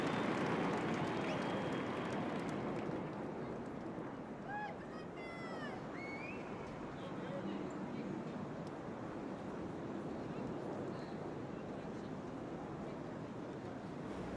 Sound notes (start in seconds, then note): 0.0 applause